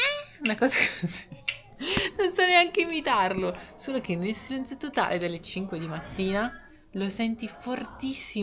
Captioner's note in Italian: risate